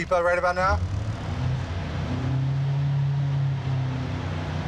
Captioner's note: engine revving